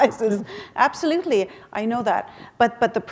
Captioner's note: chuckle